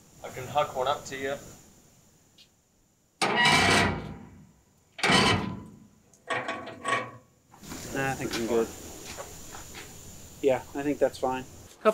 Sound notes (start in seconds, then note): 3.2 more Creaking